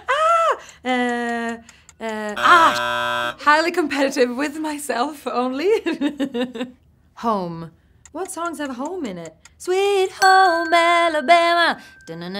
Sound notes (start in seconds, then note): 2.3 buzzer beeping; 3.4 beep